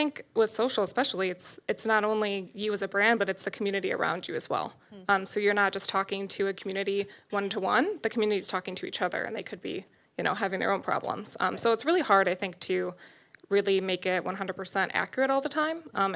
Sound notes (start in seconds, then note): none